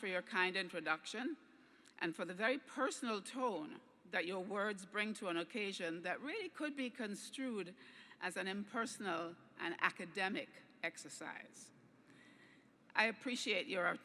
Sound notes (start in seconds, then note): none